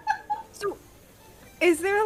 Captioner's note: laughs